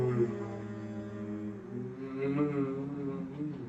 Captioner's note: humming